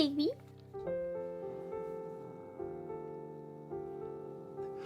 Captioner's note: cat growling